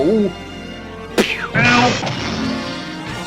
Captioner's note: crash